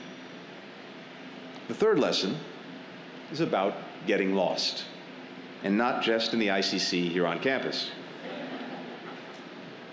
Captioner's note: laughter